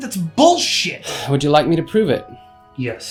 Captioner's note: sighs